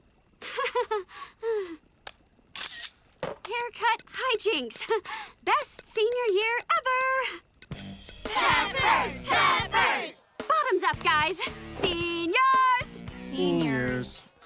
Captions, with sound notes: [chuckles] [clicking] Haircut highjinks. Best senior year ever. Peppers! Peppers! Bottoms up guys. Seniors! Seniors.